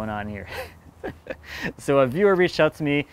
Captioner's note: laughing